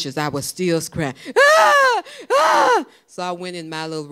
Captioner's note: crying